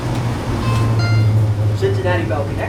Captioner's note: train bell